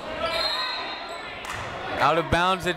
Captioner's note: whistle